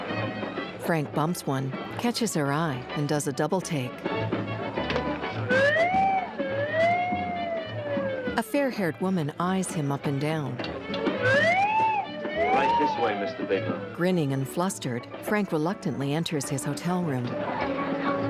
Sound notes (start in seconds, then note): 6.6 slide whistle; 11.2 slide whistle